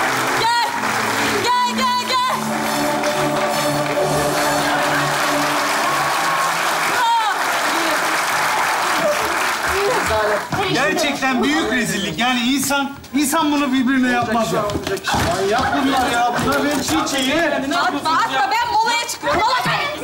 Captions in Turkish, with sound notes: Gel. Gel gel gel. (Alkış sesleri) -Rezalet. -Gerçekten büyük rezillik. Yani insan, insan bunu birbirine yapmaz ya. -Manyak bunlar ya. Bunlar beni çiğ çiğ yer. -Atma atma. Ben molaya çıkıyorum. Mola...